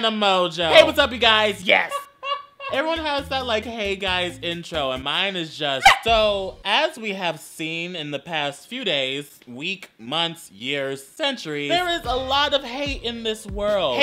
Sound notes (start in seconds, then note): 1.8 dying Goose Laughter